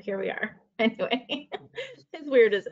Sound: laughing

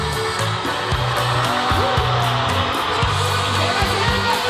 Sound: GRITOS DEL PúBLICO

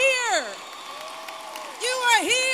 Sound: applause

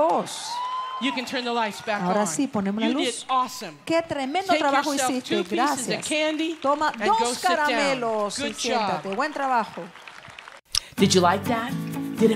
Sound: Spanish

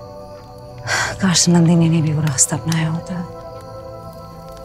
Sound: sighs

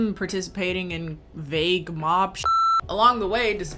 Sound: beep

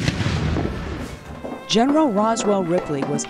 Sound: cannon boom

